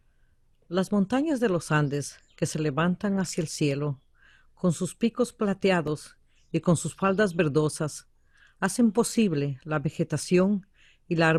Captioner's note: VOICE-OVER in Spanish